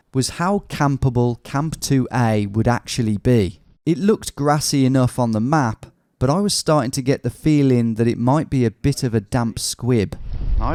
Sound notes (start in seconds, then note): none